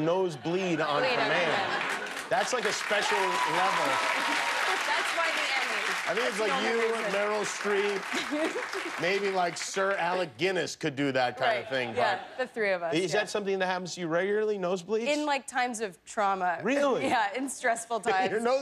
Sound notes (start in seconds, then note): 6.3 laughter; 9.8 cheers and applause